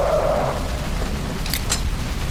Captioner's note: gun clicks